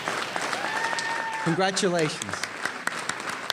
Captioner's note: applause